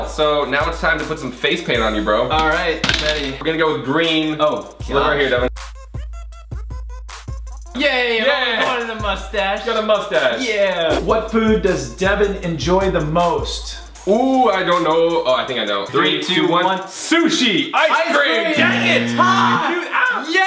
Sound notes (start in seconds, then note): 5.5 trippy music; 18.6 loud buzzing